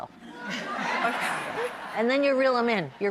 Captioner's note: laughing